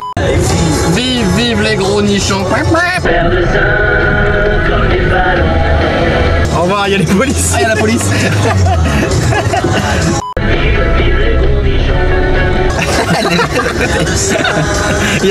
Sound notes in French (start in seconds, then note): 3.0 musique de beauf dans le micro; 7.6 rires; 12.7 rires